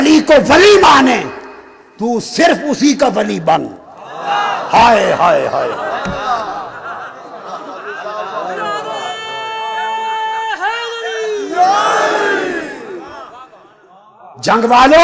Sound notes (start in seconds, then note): 7.3 laughter